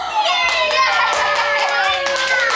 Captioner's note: everyone applauds